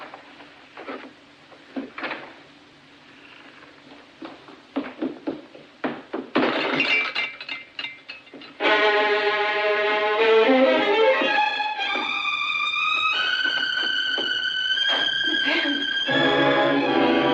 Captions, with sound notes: [Door Opening, Closing] [Glass Shattering] Miss Em!